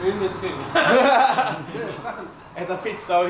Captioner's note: breaks out in laughter